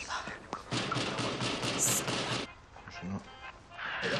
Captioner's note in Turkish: Kapıya vurulur